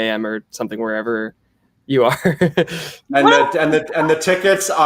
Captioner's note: laughs